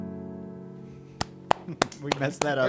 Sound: applause

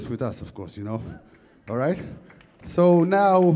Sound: audience clapping

